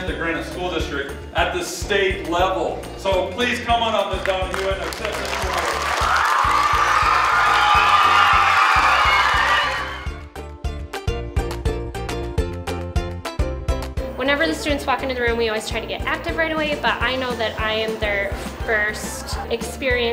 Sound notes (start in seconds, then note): 5.8 crowd cheering, applauding; 10.5 upbeat music